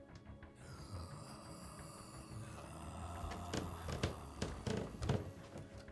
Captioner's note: creepy moan